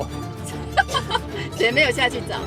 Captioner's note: maniacal laughter